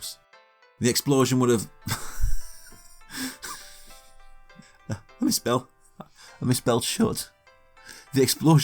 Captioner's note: laughs